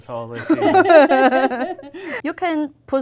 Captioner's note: group laughing